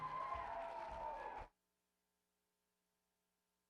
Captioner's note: cheering and applause; silence